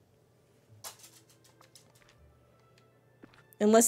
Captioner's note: doggy Nails on Floor